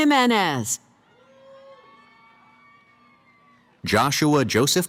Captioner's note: cheering